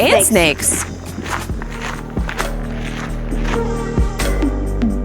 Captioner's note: footsteps on gravel; upbeat electronic music